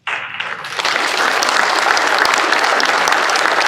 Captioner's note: applause